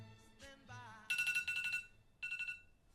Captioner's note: alarm